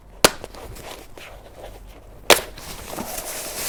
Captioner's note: clicking latches; rustling canvas